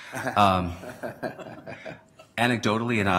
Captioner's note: laughter